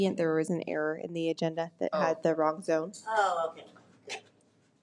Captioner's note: none